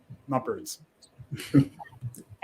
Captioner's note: chuckles